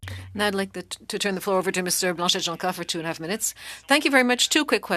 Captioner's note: speaking French